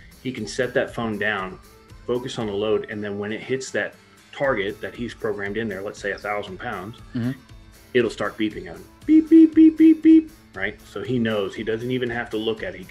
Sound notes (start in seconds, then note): 9.0 beeping